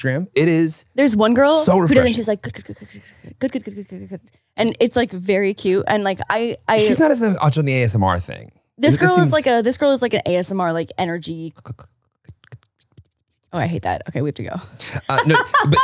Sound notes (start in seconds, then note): 3.3 speaks gibberish; 11.4 speaks gibberish; 14.9 laughing